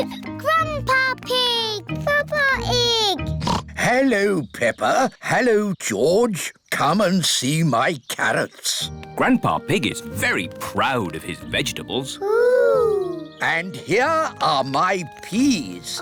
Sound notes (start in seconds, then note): 3.4 oinks